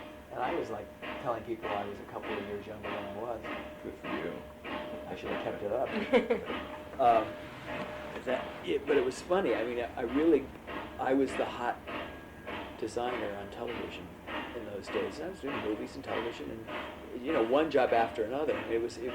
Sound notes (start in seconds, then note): 5.9 laughter